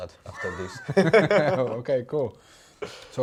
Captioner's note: both laughing